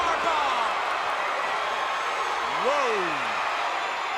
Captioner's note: crowd cheering